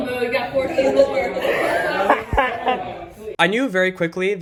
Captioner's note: laughs